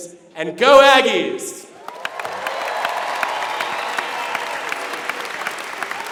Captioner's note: applause